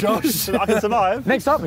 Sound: laughing

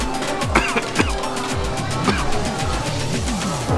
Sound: cough

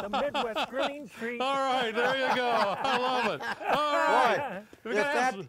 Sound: laughing

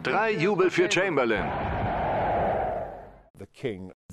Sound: crowd cheering

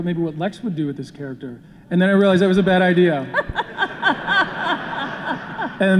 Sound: laughter

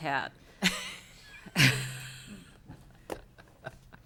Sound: laughing

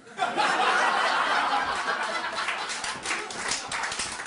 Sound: audience laughter

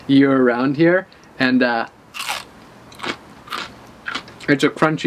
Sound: takes a bite with a crunch

